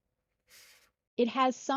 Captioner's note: blows forcefully through nose at uncertain expierence